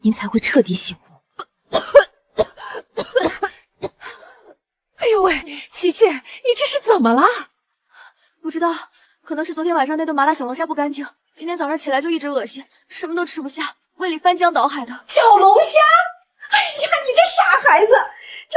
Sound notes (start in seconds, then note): 1.4 cough, cough, cough